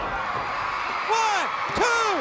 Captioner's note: crowd cheering